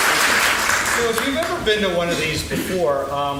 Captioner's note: laughing